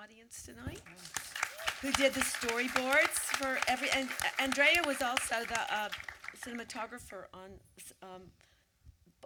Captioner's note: audience applause